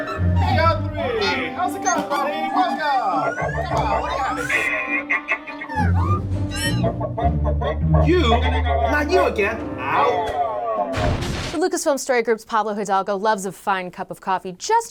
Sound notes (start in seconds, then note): 3.3 Chopper beeps and groans; 4.7 chopper beeps; 6.4 R3-A3 noises